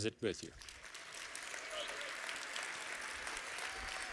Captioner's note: applause